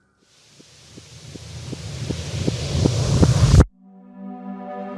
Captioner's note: rising hiss